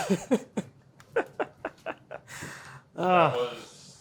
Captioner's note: laughing